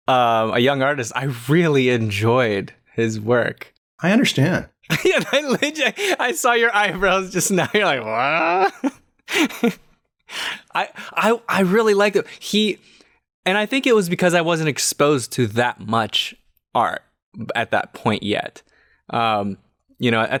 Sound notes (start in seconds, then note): 4.8 laughter; 10.6 chuckles